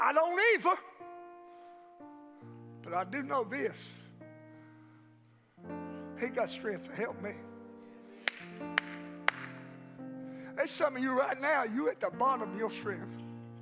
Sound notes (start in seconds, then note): 4.1 peaceful music continues; 8.2 pastor claps hands